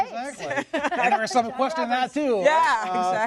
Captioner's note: laughter